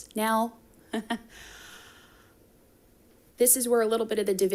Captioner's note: chuckles